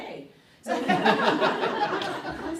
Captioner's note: audience laughing